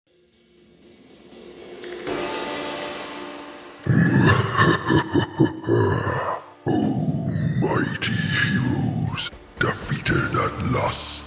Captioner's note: laughs menacingly